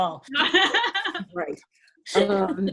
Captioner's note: laughing